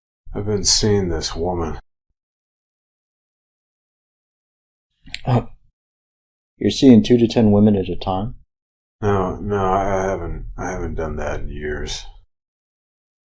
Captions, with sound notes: I've been seeing this woman. [long silence] [clears throat] You're seeing 2 to 10 women at a time? No. No. I-I haven't, I haven't done that in years.